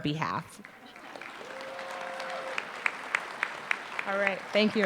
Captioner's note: applause